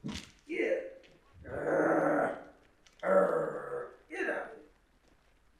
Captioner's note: growls